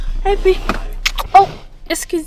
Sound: kiss

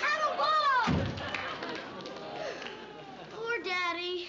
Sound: door closes

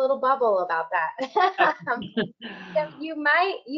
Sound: laughing

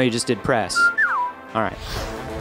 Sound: electronic whistling

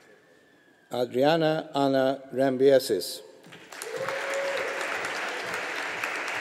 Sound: audience applauding

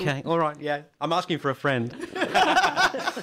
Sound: laughter

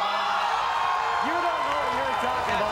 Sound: crowd cheers

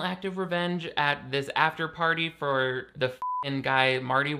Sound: beep

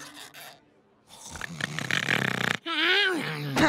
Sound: snoring

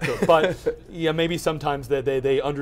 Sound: laughs

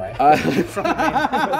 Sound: laughter

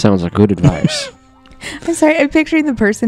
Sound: chuckles; laughing

